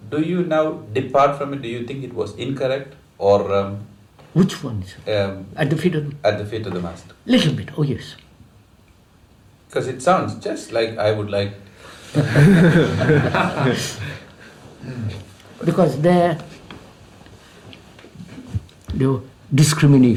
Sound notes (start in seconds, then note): 12.1 laughter